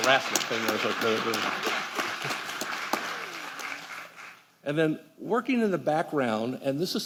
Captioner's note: applause